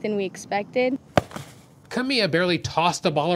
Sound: ball thuds into mitt

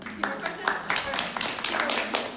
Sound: clapping

